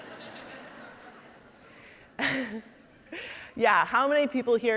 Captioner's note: audience laughing